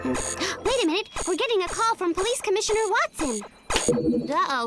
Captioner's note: gasps